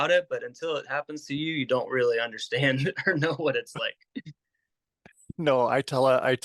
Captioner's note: chuckle